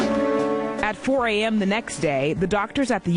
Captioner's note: voiceover